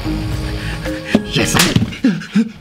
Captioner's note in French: bruit de claque